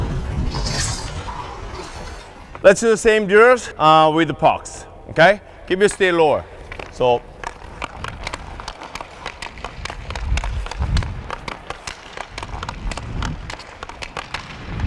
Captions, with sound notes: (skates scraping) Let's do the same drills with the pucks, okay? Keep your. Stay low. (stick hitting)